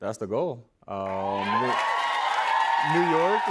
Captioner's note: cheers and applause